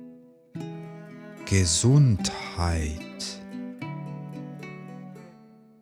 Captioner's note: german